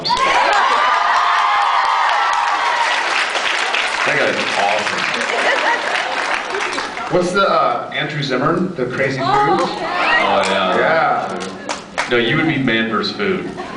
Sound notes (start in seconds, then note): 0.0 cheers, applauds; 4.9 applauds; 5.3 laughs, applauds; 9.8 scattered cheers